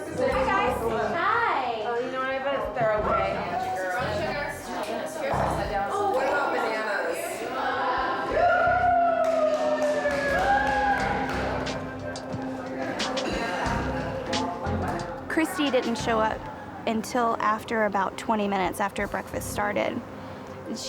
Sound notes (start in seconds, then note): 4.1 contestants chattering; 11.8 soft uneasy music